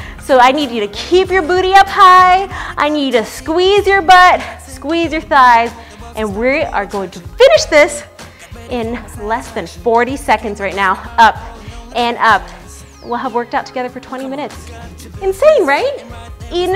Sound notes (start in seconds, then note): none